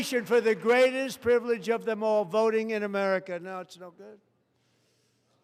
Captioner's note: applause